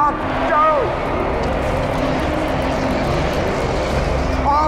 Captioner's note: crowd cheers